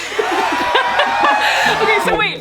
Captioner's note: laughing